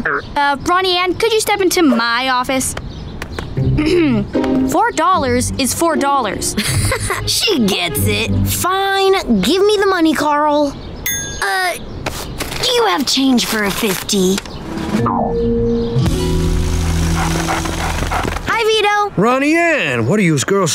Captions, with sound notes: Uh, Ronnie Anne, could you step into my office? [clearing throat] $4, is $4. [chuckles] She gets it. Fine, give me the money, Carl. Uh, do you have change for a 50? Hi, Vito. Ronnie Anne, what are you's girls startin'